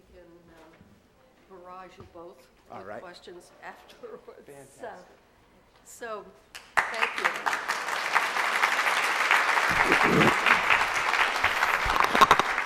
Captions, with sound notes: - We can barrage you both with questions afterwards so thank you. (audience applauding)